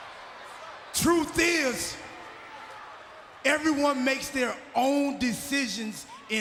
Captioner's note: applause